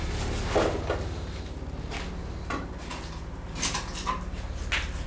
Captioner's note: footsteps tapping